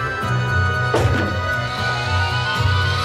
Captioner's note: saws whirring; switch clacking